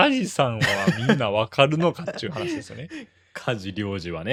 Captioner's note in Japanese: 笑い